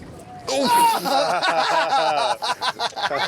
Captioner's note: laughs